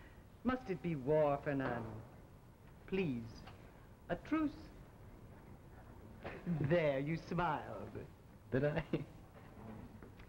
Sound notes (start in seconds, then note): 8.6 laughter